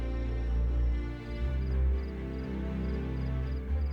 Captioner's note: tense music; crickets chirping